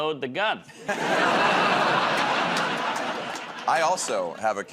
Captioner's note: laughter